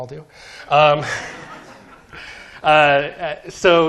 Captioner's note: laughter